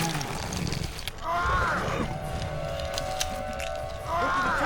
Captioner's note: yells